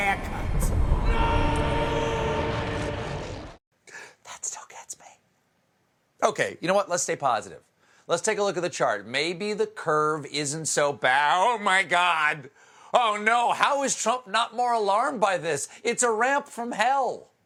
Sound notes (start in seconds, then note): 9.7 whispering